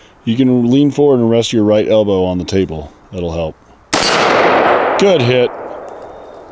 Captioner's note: gunshot